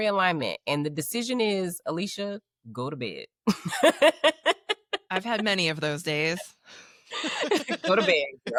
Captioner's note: laughing